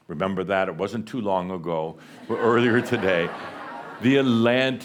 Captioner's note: laughter